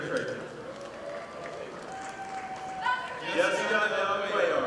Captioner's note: audience applauding